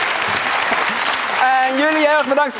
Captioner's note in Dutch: applaus en gejuich